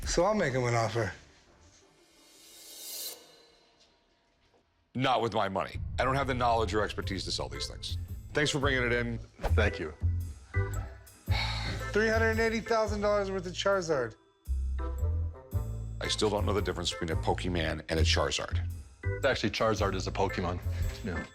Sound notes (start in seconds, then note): 2.2 cymbal shimmers; 11.2 sighs